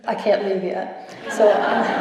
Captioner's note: laughter